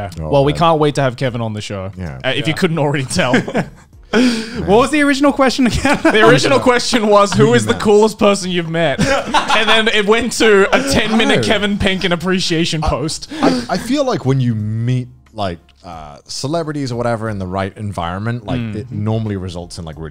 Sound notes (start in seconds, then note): 5.6 laughs; 8.9 laughing